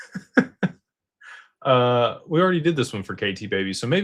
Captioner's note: laughter